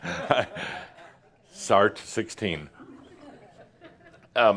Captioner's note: chuckling